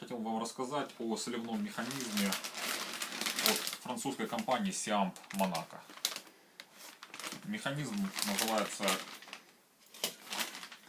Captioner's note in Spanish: francés